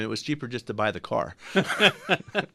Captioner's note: laughs; both laugh